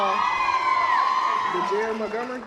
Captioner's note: audience applause